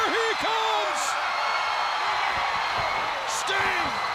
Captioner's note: audience cheers